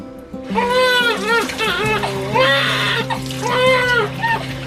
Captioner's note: baby crying